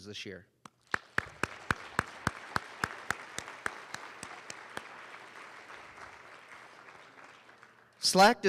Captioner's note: applause